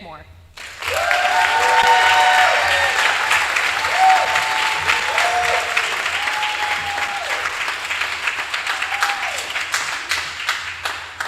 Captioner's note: applause